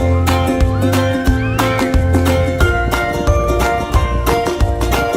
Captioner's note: joyful screaming